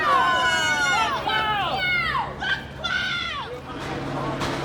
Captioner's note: residents shouting